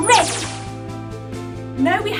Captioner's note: electronic swoosh